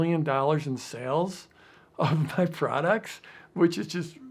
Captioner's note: laughs